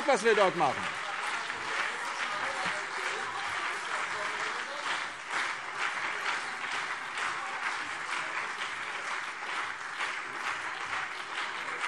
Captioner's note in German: Lebhafter Beifall CDU und BÜNDNIS 90/DIE GRÜNEN - Zurufe SPD